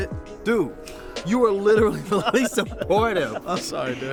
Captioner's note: laugh